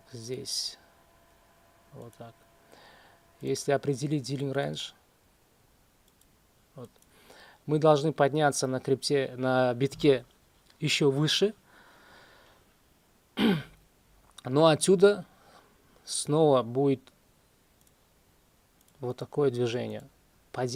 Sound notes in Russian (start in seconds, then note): 13.4 откашливается